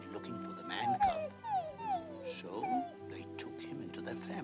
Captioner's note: wolf pup crying